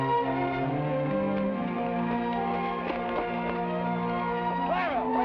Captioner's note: footsteps patter